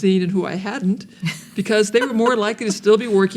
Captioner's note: laughing